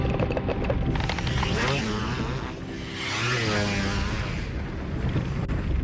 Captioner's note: motorcycle engine